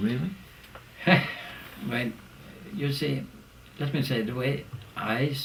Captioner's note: laugh